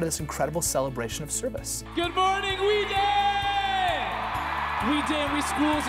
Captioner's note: cheering